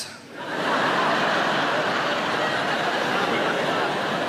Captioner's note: audience laughing